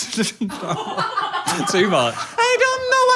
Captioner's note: producer laughs